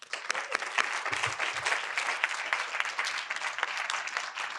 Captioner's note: audience applauding